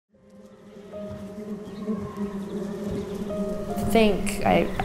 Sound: slow piano music; buzzing

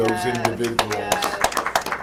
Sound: applause

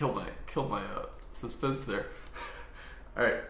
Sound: chuckles

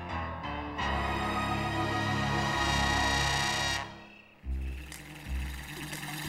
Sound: applause

